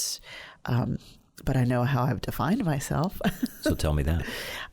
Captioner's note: chuckles